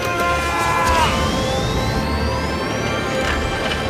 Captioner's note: screaming